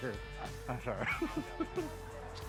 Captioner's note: chuckles